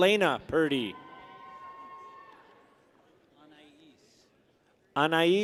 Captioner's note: people cheer